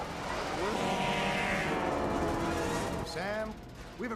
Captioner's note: train whistle blows